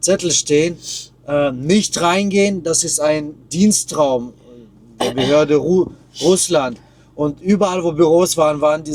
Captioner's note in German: räuspern